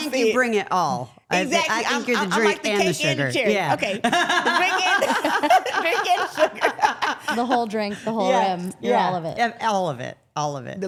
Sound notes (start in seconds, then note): 4.0 everyone laughing